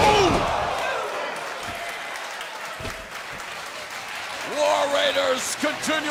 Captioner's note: crowd cheering